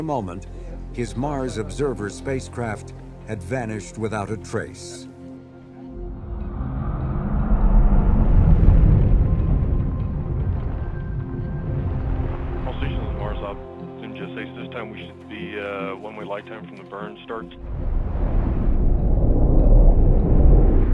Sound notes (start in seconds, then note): 8.8 rushing air; 19.9 roaring